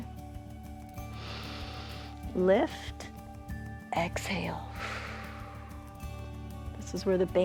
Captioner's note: inhales; exhales